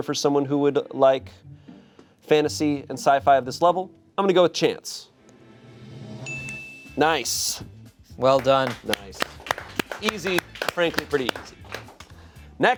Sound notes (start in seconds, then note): 5.9 drum roll hisses; 6.3 bell chimes; 8.6 crew applauds